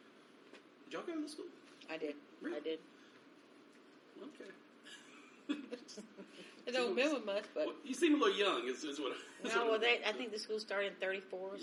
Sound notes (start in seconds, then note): 5.0 laughs